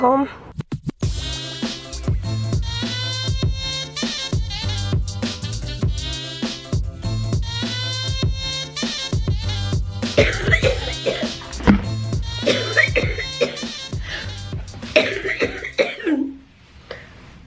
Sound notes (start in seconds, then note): 10.0 coughing